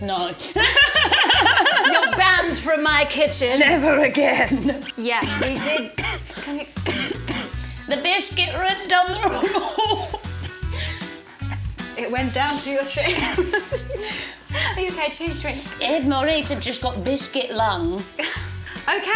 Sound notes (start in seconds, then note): 0.5 both laughing; 5.1 coughing; 10.9 coughing